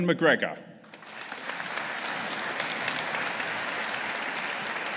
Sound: audience applauding

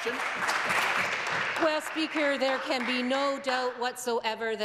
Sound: some Applause

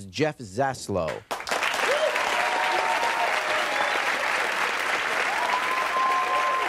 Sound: audience cheering and applauding

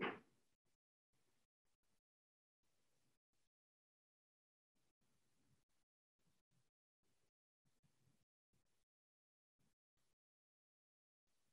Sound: long pause

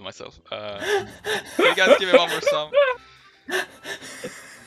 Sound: hahahaha

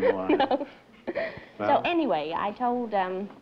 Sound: laughter

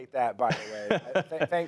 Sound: laughter

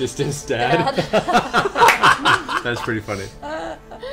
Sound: all laugh

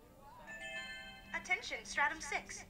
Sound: chimes sounding

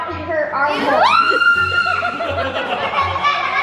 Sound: screaming; laughing

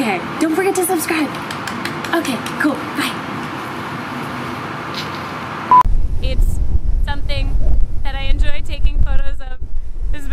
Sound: some random person clapping thank you!

